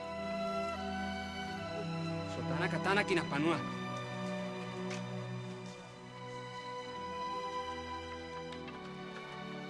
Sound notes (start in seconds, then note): 1.9 speaking native language